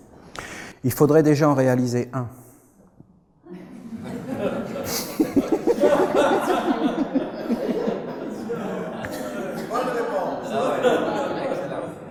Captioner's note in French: rires